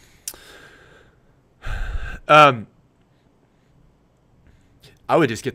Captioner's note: sighs